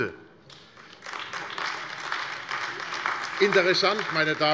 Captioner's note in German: Beifall AfD